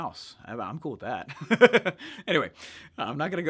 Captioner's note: laughs